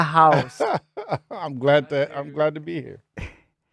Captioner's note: laughing